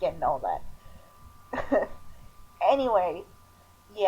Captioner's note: chuckle